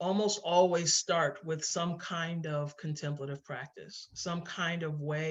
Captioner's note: none